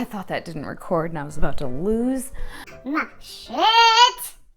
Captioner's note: high-pitched voice